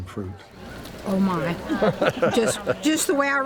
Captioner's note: laughs